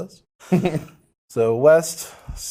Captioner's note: laughs